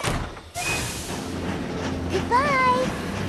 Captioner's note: door closes; engine chugging